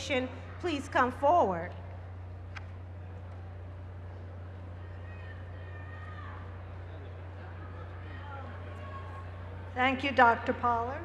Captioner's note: cheers and applause